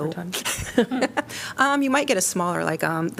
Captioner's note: laughter